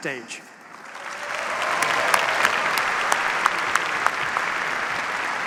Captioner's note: cheers, applause